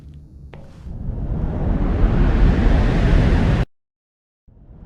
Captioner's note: air wooshing